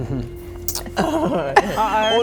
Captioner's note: nervous laughter